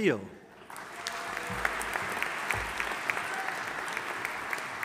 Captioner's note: audience applauding